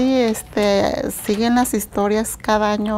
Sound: speaking in Spanish

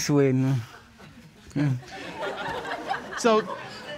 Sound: audience laughs

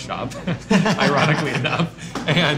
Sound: laughing

